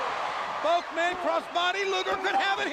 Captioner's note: crowd cheering